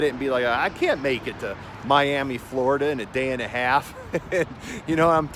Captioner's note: chuckles